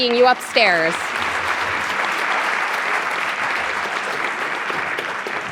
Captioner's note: audience applauding